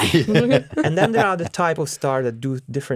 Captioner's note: laughs